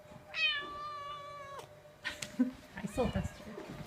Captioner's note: cat meows